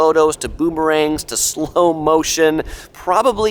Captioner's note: giggles